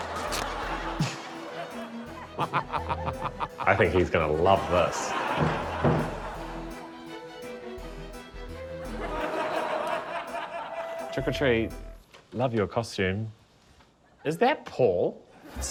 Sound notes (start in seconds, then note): 0.0 laughter; 2.3 laughs; 5.3 heavy knock on door